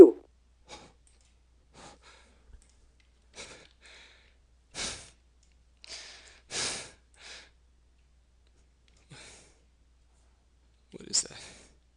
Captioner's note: breathes heavily